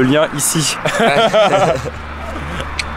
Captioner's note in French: rires